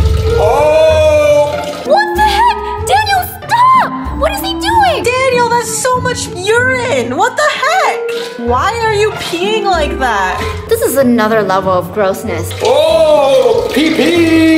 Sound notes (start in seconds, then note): 12.4 urinating noise